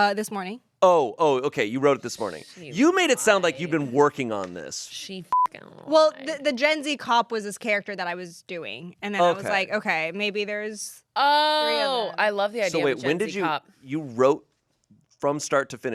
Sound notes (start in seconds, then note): 5.3 beep